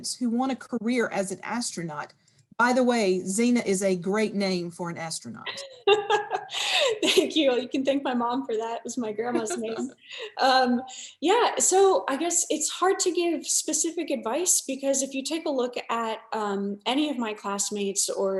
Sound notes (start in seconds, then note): 5.4 laughing; 9.3 laughing